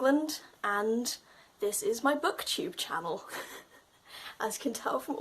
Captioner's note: chuckles